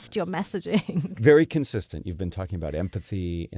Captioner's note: laugh